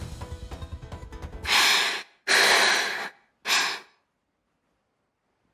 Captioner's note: huff